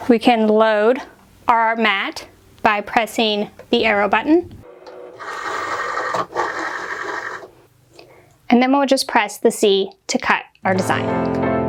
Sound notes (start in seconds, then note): 4.6 machine scrapes; 10.7 relaxed music